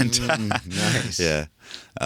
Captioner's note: laughs